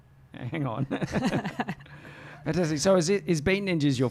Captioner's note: both laugh